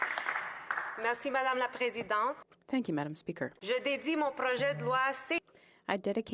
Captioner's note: speaking French; some Applause